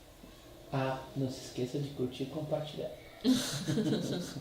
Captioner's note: laughs